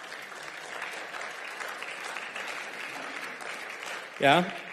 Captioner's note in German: Beifall